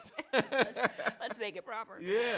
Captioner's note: both laugh